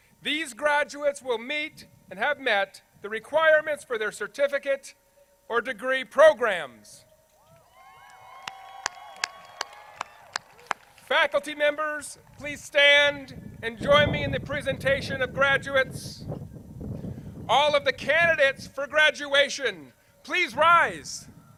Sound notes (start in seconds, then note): 7.4 crowd cheers